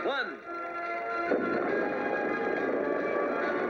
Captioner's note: explosion